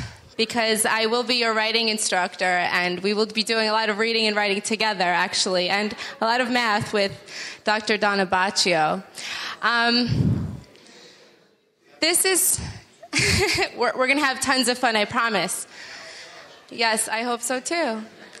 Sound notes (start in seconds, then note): 12.5 laughing